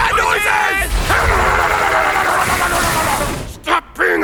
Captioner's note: whacking and grunting